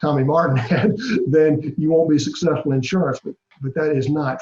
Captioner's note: laugh